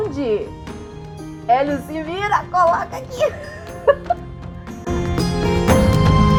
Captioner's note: giggle